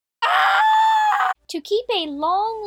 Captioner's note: aaaaahhhhhh